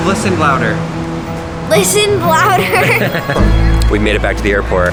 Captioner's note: laughs